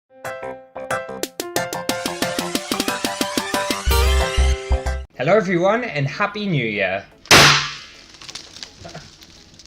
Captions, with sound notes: *Intro Music* Hello everyone and Happy New Year! *Boom*